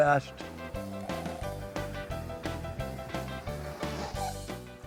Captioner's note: drink slurping